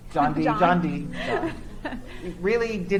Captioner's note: chuckles